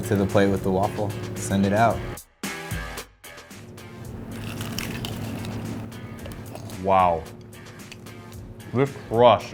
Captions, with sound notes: Add it to the plate with the waffle, send it out. (upbeat music) (crunching) - Wow, this crust is so good.